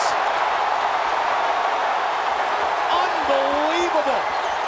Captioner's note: crowd roars